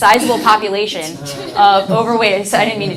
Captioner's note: audience laughs